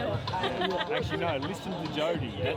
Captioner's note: laughs